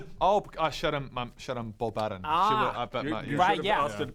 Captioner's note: none